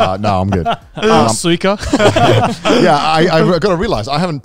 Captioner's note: speaks in Japanese